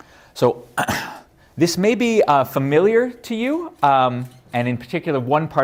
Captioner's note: cough